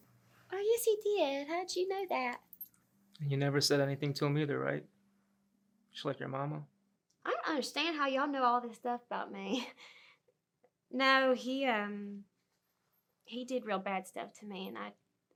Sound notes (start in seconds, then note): 9.3 Ella chuckles